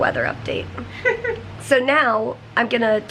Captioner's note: chuckles